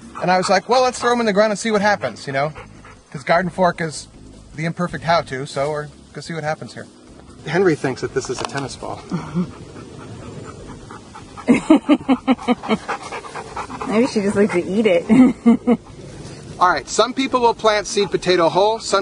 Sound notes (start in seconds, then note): 9.2 woman laughs; 10.5 dog panting; 11.4 woman laughs; 16.1 laughing